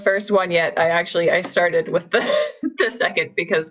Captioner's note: laughs